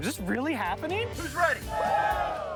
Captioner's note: crowd cheers